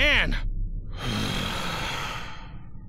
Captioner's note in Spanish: Exhala